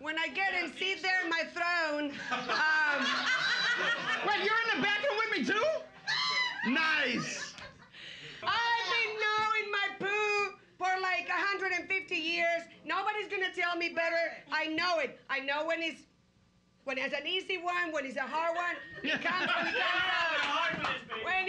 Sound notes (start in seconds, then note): 2.3 loudly laughing; 6.0 woman screams; 7.0 chuckling; 18.9 loudly laughing